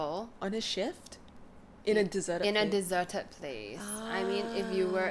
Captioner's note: ahhhhh